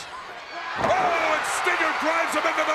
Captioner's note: crowd cheering